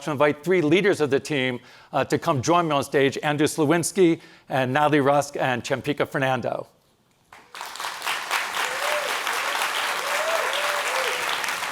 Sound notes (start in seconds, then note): 7.4 cheering and applause